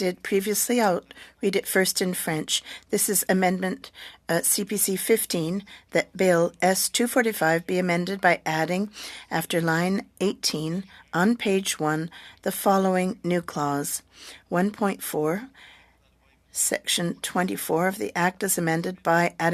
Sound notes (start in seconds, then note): 7.0 speaking french